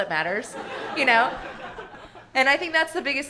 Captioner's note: audience laughing